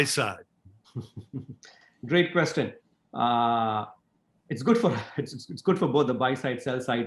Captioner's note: laugh